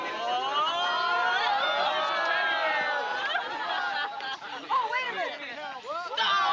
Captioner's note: cheering; laughing